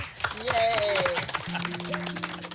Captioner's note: all clapping